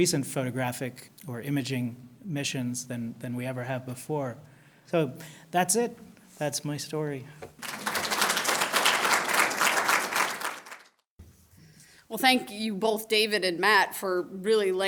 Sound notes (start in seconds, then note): 7.5 applause